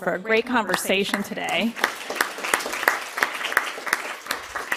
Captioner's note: audience applause